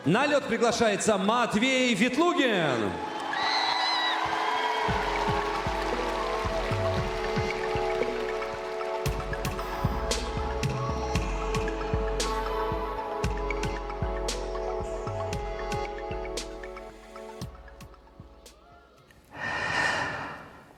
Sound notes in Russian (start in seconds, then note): 9.4 вздыхает; 9.4 тяжело вздыхает